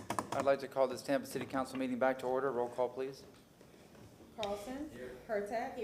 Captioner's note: gavel sounding